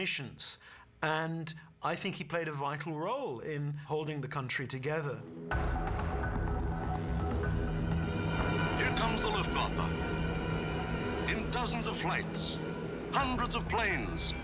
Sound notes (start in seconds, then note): 7.0 hum of airplanes